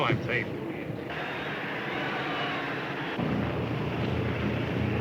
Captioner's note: crowd cheers